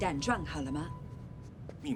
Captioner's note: speaks foreign language